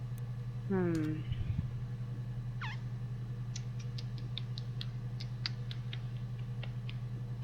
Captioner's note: thinking noises